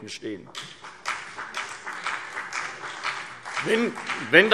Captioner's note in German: Beifall CDU und BÜNDNIS 90/DIE GRÜNEN